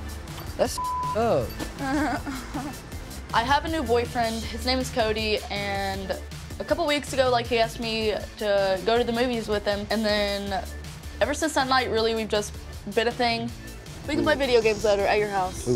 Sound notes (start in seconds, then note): 0.7 beep; 1.6 laughing